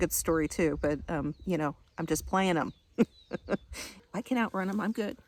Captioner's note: laughing